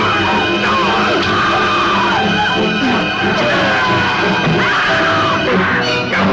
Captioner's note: Carter yelling; Ingrid screaming